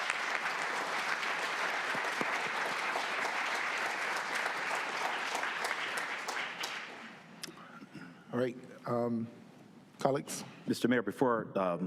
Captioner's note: applause